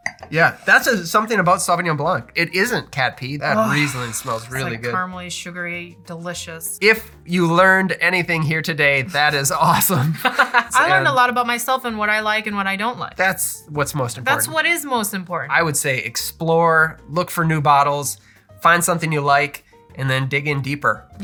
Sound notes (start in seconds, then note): 9.9 laughter